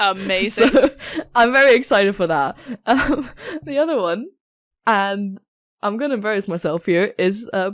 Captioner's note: laughing